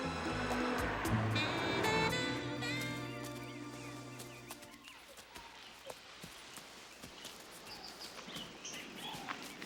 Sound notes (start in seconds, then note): 3.2 birds chirping